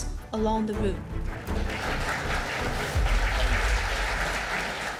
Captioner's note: audience applauding